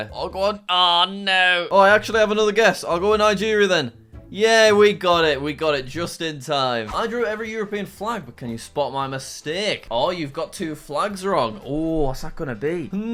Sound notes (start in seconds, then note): none